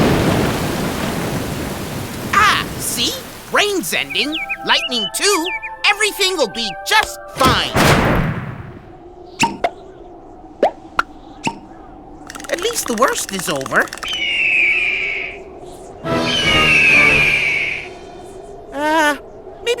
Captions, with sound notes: AHH, SEE? RAIN'S ENDING. LIGHTNING TOO. EVERYTHING'LL BE JUST FINE. (COLD WIND BLOWS) AT LEAST THE WORST IS OVER. (VULTURE CRIES) (VULTURE CRIES) UH, MAYBE WE SHOULD FIND DANA.